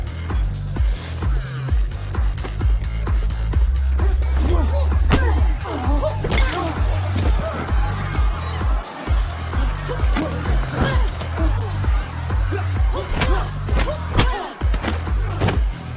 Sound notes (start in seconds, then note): 7.9 people screaming; 10.9 dramatic music continues; 10.9 punches thudding